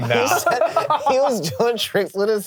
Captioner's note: all laughing